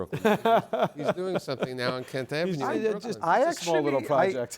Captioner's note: laughs